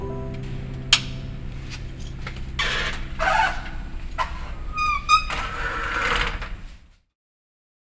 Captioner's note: soft piano music stops; click of light switch, metal door closing